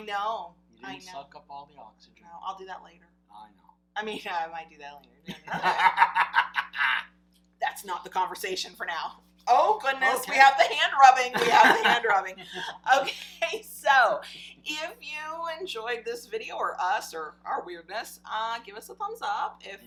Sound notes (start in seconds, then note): 5.4 laughing